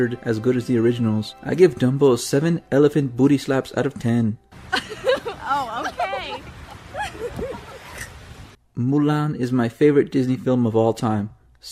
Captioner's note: thots giggling